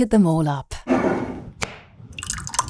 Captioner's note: jar scraping; jar cap clacking; sauce sloshing